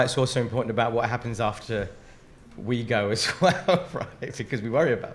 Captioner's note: laughs